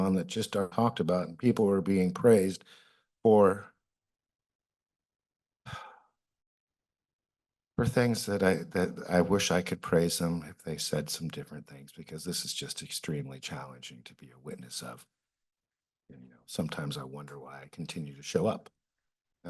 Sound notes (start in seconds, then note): 4.2 pause; 5.6 sighs; 6.6 pause; 15.1 pause